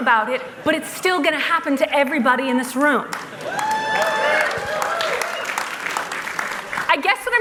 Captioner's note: laughter